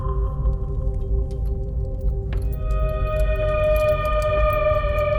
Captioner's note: chains jangling